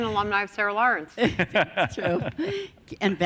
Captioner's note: laughs